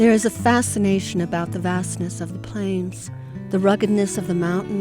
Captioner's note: voiceover